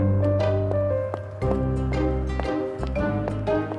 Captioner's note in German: Schritte